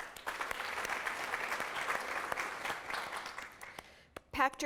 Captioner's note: applause